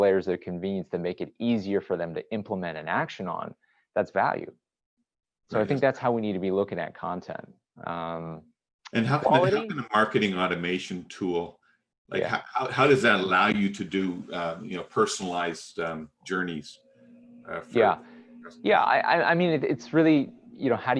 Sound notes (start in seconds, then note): 9.2 distorted speech